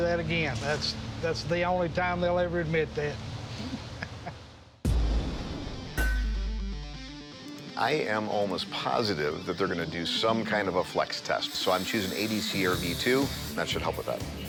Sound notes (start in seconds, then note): 3.6 laughs; 6.0 iron clanking